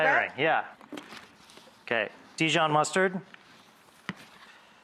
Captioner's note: none